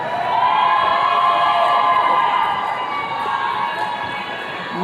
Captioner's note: attendees cheering